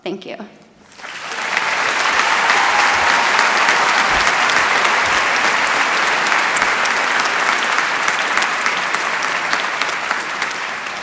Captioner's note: applause